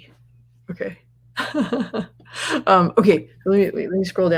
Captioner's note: laughs